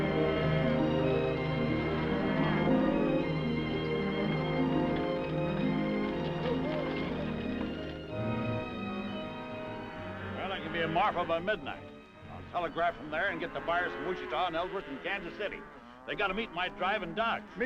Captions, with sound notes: (cows mooing) (gentle music) (horse hooves clopping) (gentle music) (cows mooing) Well, I can be in Marfa by midnight. I'll telegraph from there and get the fire from Wichita, and they'll work from Kansas City. They've got to meet my drive in Dodge.